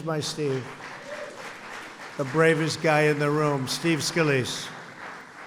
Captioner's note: applause